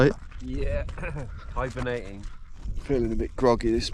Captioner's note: chuckles